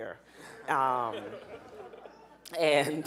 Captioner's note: audience laughing